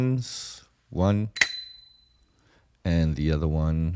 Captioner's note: ding